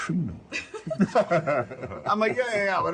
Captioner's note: table laughs